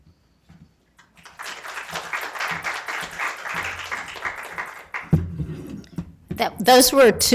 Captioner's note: applause